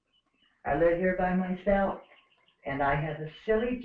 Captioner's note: birds chirping